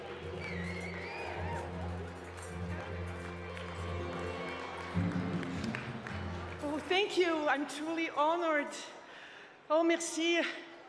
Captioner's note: applause